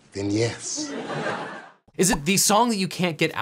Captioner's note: audience laughing